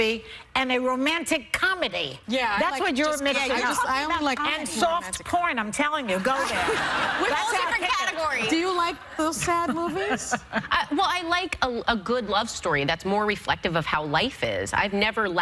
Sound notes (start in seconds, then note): 9.3 laughter